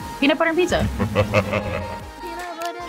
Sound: evil laughter

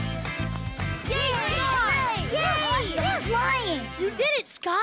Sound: cheering

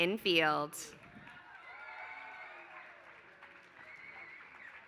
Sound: applause

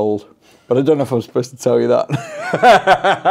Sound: laughs

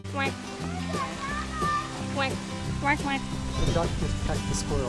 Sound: duck sounds

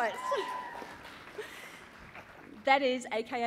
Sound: cheering

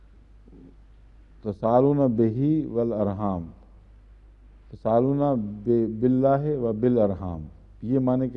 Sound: Arabic

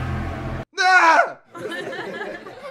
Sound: yells

